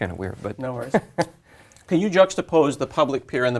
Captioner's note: laugh